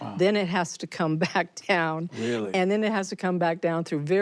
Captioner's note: she chuckles